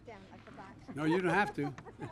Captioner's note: laughs